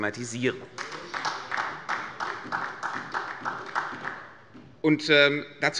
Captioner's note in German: Beifall bei Abgeordneten der SPD